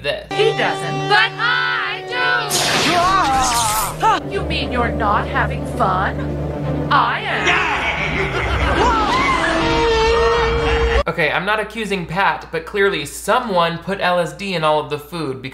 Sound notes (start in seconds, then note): 2.5 electricity buzzing; 2.8 moaning; 7.3 skull cackling